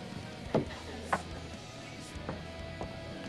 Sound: glass thunks on bar; patrons chattering over rhythmic hard rock music

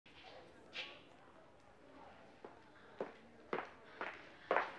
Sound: people chattering

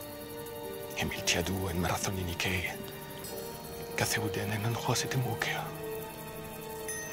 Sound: Themistocles whispering in foreign language

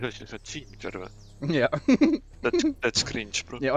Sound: giggles like ginger

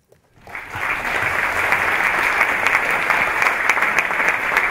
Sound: audience clapping

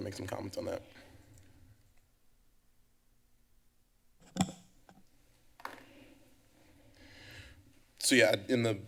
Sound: pause

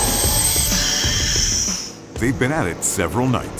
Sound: vacuum pipe hissing

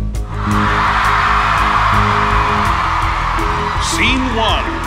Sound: audience screams

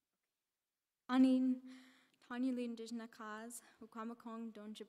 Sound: in Indigenous language

